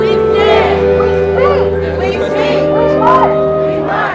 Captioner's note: crowd